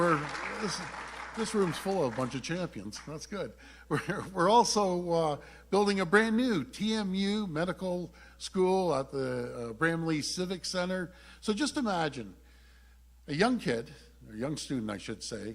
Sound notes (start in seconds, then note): 3.5 applause